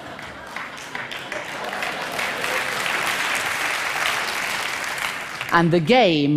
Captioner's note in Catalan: Aplaudiments